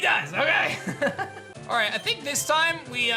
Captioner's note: laughs